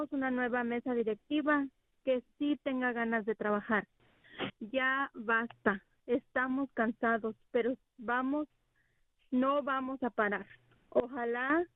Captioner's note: speaking spanish